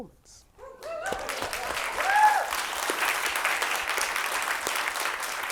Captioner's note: audience applauds and cheers